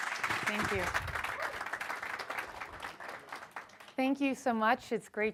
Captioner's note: audience applause